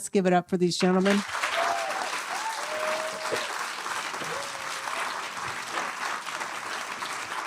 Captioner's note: applause